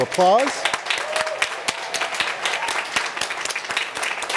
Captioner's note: applause